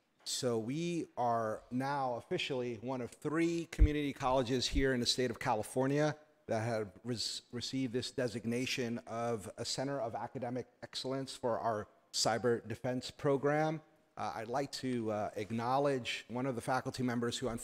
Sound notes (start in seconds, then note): none